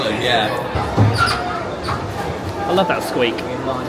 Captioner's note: ride squeaks